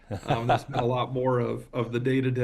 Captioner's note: laughs